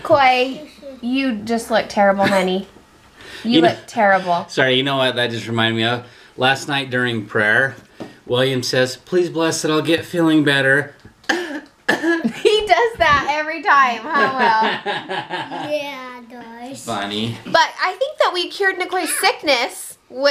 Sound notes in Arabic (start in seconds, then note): 11.8 السعال لطيف; 14.0 يضحك